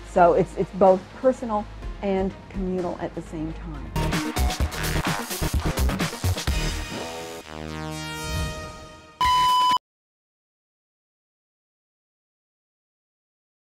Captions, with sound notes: So it's both personal and communal at the same. (upbeat music) (beep)